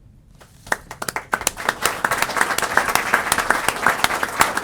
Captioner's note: applause